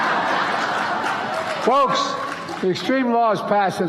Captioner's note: applause